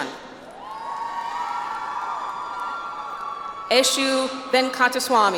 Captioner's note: audience applauds